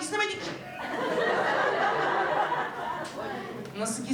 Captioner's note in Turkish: Gülüşmeler